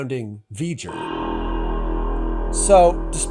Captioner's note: V'Ger roar